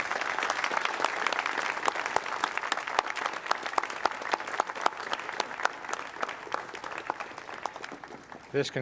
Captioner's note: applaud